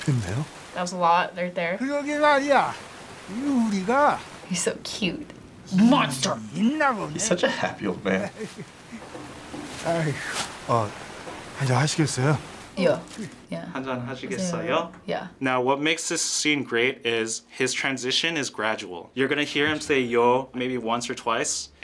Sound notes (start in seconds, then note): 13.6 React speaks Korean